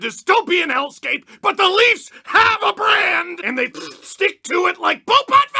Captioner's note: squelch